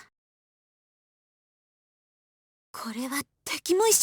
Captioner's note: silence